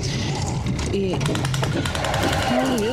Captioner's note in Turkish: Motor tekleme sesi